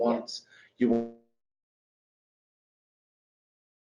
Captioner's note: audio distorts